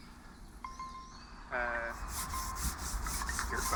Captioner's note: phone dinging